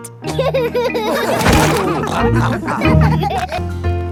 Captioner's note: all laughing